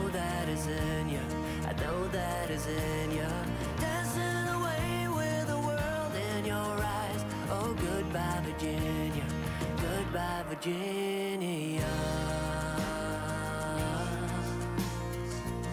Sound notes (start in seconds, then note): 6.7 reciprocating saw